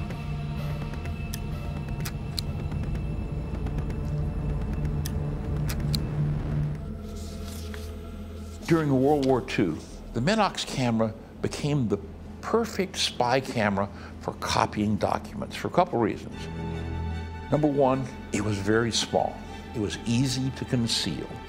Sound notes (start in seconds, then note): 1.0 click; 5.7 click